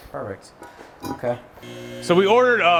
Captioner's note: metal clinking; tool buzzing